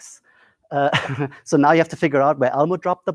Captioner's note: laughs